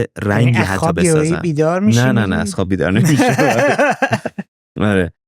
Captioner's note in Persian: خنده